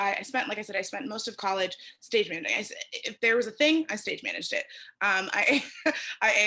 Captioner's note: laughter